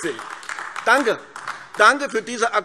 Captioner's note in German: Beifall AfD